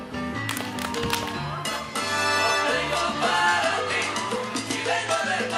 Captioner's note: audience cheering